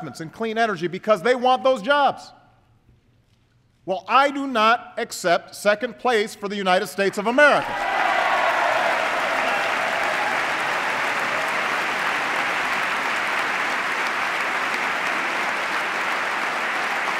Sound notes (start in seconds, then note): 7.6 applause